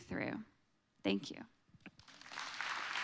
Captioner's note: clapping